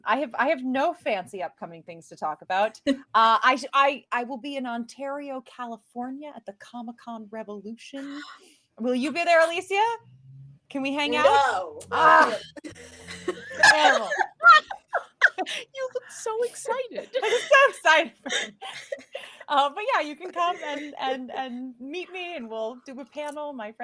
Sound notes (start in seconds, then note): 13.4 laughing; 17.1 chuckles